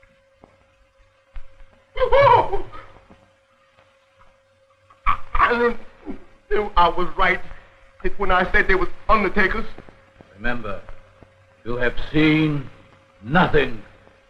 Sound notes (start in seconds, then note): 4.9 stammering